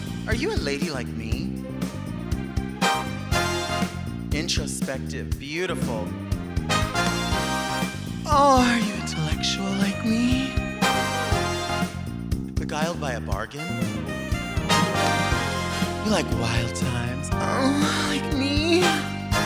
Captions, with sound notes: - Are you a lady like me? (upbeat 80s talk show music) Introspective. Beautiful. (upbeat 80s talk show music) Oh, are you intellectual like me? (upbeat 80s talk show music) Beguiled by a bargain? (upbeat 80s talk show music) You like wild times? (moans) Like me?